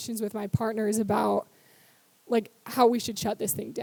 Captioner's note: none